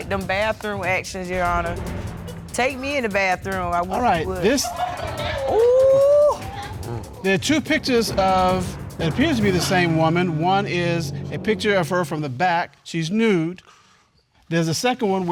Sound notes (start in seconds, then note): 4.3 audience chuckle; 6.2 exclaims